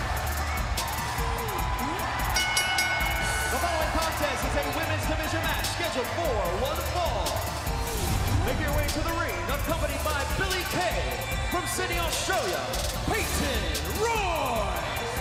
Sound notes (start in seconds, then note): 0.0 crowd cheering; 2.3 bell ringing